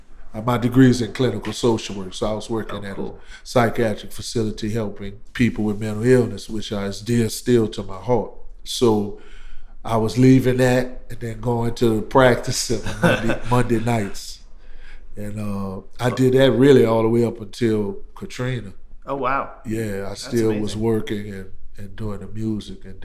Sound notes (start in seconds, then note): 12.6 laughter